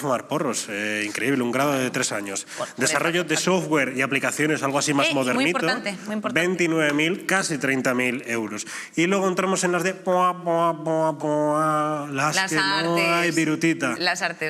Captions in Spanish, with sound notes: Increíble, un grado de tres años. Desarrollo de software y aplicaciones, algo así más modernito... Y muy importante. ...casi 30 000 euros. Y luego entramos en las de... (SONIDO DE RESPUESTA FALLADA) las que no hay virutita. Las artes, ¿no?